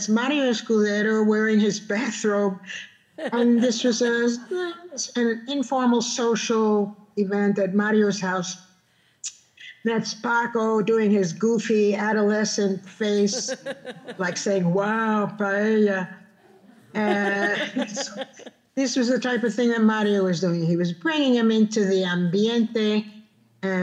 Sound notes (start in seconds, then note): 12.8 laughing; 15.1 speaking Spanish